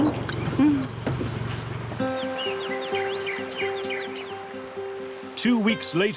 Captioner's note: birds chirping; gentle upbeat music